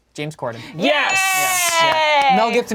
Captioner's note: cheers